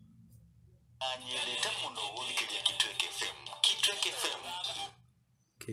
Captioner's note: radio sound